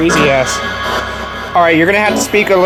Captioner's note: discordant radio sounds blaring